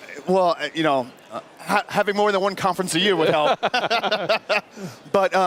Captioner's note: laughter